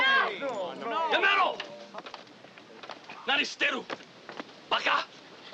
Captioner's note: shouting in Japanese